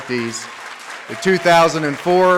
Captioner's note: audience claps